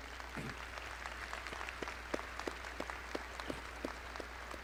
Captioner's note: graduates applauding